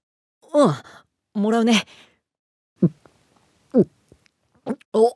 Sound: gulp gulp gulp gulp

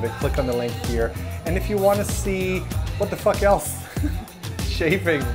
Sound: laughs

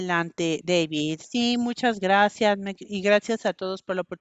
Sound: a través de intérprete

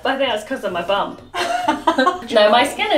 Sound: chuckling

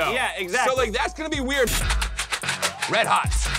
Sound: candy shaking

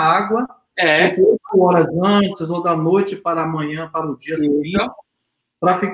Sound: speaks portuguese

